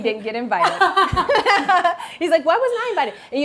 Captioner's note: Maxxine laughs